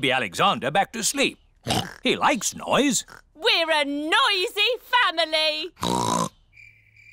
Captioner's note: oinks